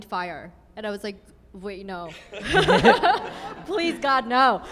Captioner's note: laughs